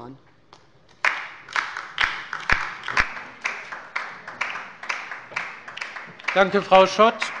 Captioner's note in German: Beifall bei der LINKEN